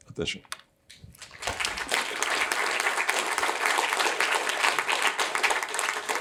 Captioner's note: applause